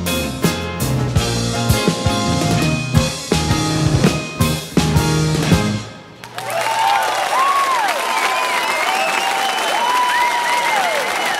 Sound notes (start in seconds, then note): 0.0 upbeat bright music; 6.1 audience cheering and clapping